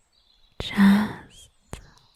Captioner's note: soft-spoken for the next three lines